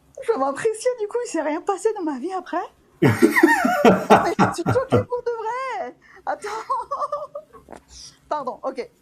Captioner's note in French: rires